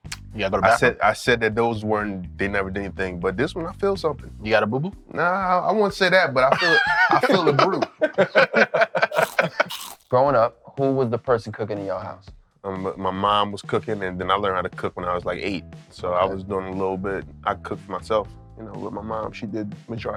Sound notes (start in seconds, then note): 8.9 laughter; 9.0 biting sound